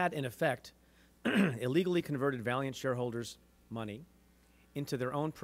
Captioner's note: clears throat